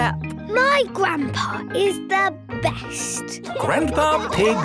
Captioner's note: laughing